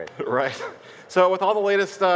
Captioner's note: laughing